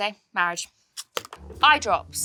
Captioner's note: container taps tabletop